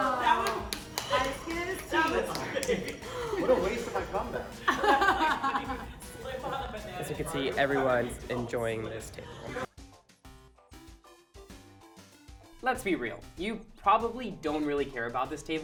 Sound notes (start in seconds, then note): 0.0 crowd cheers; 6.2 laughter